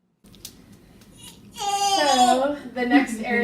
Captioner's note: baby crying